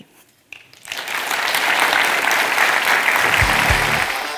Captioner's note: attendees applauding; lively rock music